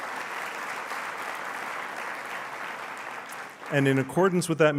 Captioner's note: applause